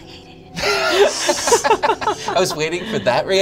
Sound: they laugh

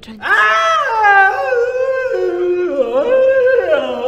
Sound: more groans and screams

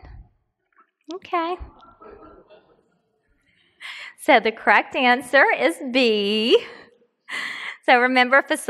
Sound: laughs

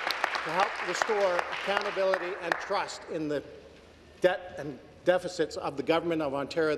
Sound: applause

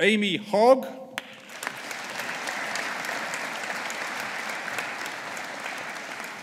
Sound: audience applauding

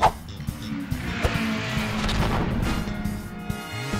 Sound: funk music; race cars vroom

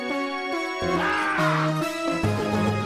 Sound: man screams

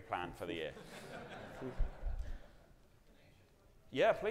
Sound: audience laughing

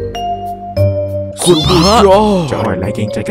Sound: scream

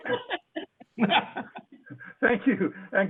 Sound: laughter

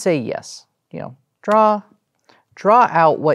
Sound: card slaps on table

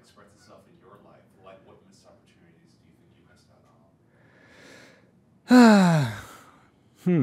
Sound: sighs

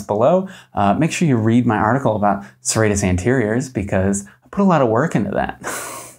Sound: laughs

